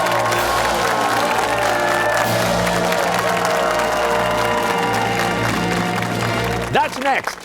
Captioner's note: fanfare; cheers and applause